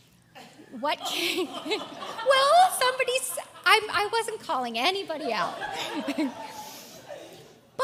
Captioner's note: laugh